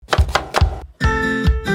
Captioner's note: knife thudding; upbeat music